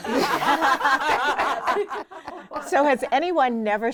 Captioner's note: women laughing